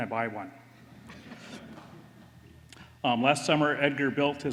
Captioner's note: laughter